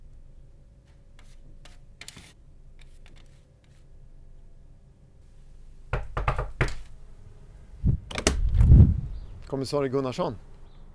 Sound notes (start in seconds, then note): 5.9 knock on door